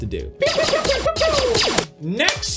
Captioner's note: fake laser gun sounds